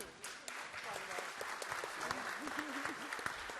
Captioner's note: applause